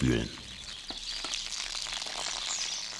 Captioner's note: birds chirping